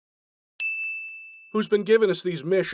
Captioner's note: ding